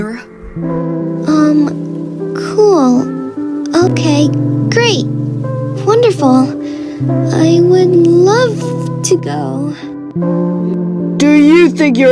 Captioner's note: sarcastic tone